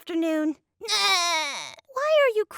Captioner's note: crying